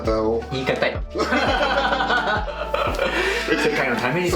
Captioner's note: laughs